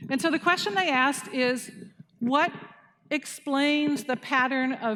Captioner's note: none